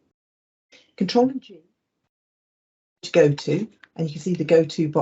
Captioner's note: audio cuts